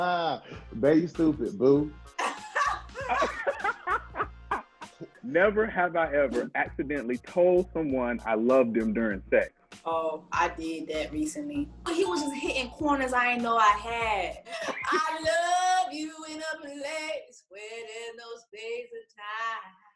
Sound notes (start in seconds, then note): 2.2 laughing; 2.2 laughs; 11.9 bell chiming